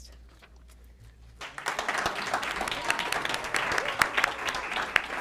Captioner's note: applause